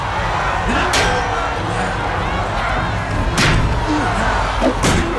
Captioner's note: grunting